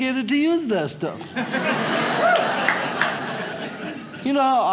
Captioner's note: audience laughs